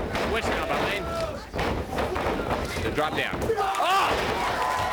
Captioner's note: crowd cheering